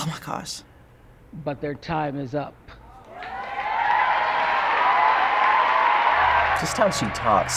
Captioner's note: crowd cheering